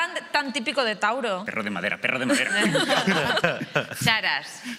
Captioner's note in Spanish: todos ríen